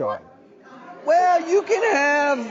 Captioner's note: audience loudly comments